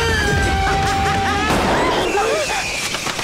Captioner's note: Gunshot